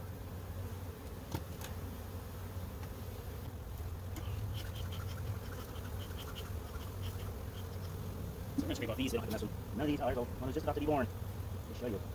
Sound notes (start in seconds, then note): 4.1 bee smoker pumping; 6.9 bees buzzing; 8.9 sped up talking